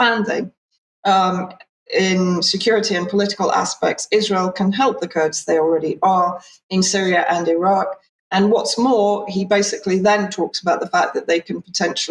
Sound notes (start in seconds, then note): 1.2 speaking in Hebrew